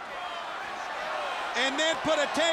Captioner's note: audience chanting